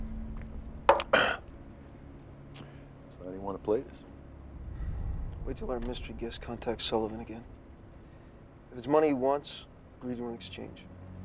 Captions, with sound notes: (glass clinks) (clears throat) - So how do you want to play this? - Wait till our mystery guest contacts Sullivan again. If it's money he wants, agree to an exchange.